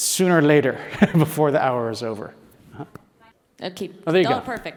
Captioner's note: laugh